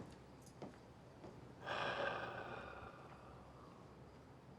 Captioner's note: sighing